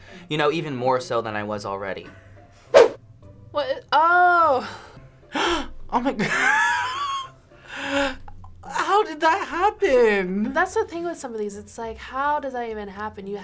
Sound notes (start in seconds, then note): 5.3 gasps; 6.2 laughs